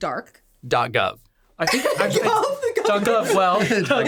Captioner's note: all laughing and talking